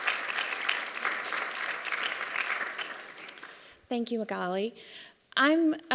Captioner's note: applause